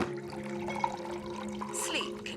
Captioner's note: water trickling